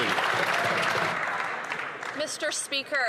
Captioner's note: some Applause